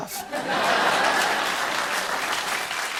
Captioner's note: laughter and applause; applause continues